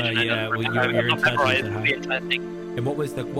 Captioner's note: mic cuts